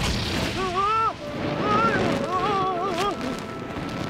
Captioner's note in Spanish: Gritando